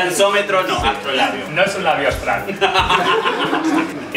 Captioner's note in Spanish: risas